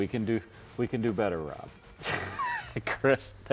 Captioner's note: laughs